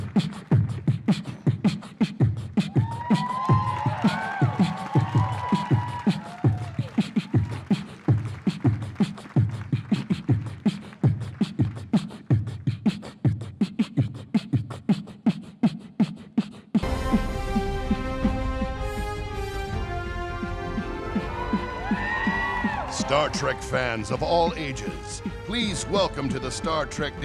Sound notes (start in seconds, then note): 6.7 beat boxing; 11.0 applause